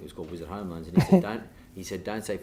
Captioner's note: chuckles